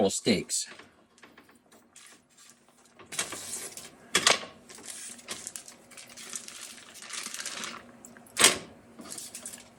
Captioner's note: crackling